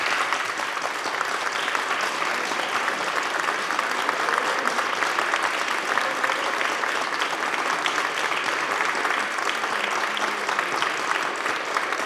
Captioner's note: applause